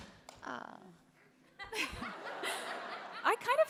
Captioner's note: laughter